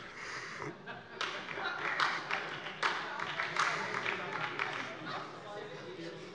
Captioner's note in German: Heiterkeit und Beifall SPD - Zuruf